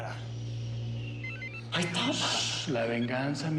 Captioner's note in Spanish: suena el teléfono